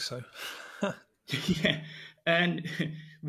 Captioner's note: laugh